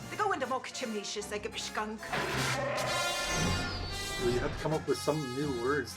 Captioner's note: speaking Ojibwe; Chewbacca roaring